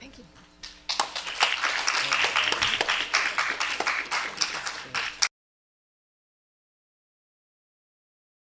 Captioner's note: applause